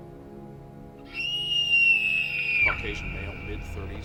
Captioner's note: somber music; Rachel screaming